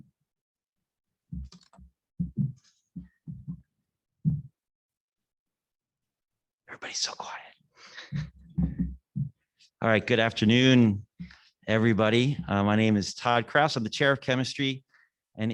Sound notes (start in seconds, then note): 8.0 chuckles